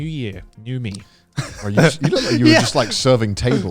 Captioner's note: laughing